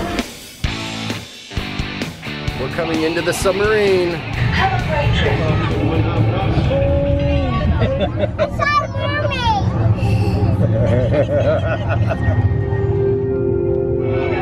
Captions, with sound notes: (upbeat music) - We're coming into the submarine. (man chuckles) - I saw a mermaid. (man laughs)